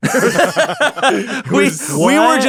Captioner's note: laughter